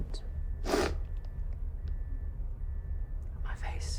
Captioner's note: sniffs